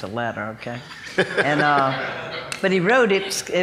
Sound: laughing

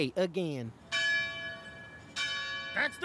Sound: bell ringing

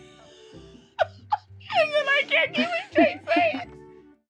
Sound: laughing

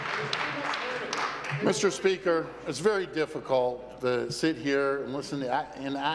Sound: applause

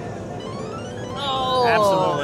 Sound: machine bleeps

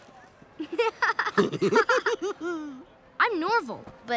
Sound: both laugh

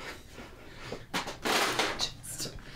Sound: objects rumbling

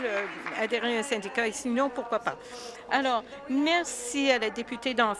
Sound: applause

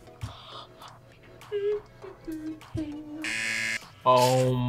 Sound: gasps; hums; buzzer rings

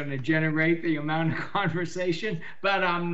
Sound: chuckles

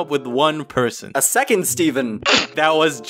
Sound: pff

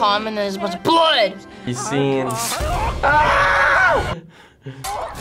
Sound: screams

